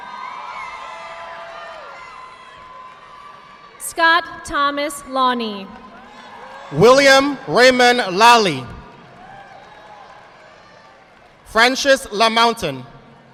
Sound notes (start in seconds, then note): 0.0 audience clapping; 6.1 audience clapping; 8.9 audience applauding